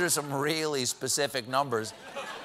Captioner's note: laughter